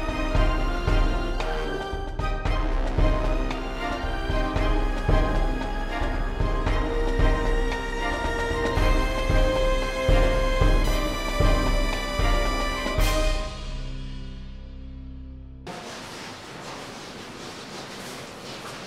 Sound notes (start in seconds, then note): 13.4 music stops; 15.9 background chatter